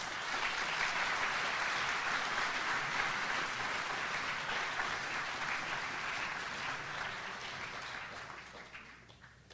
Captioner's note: audience applauds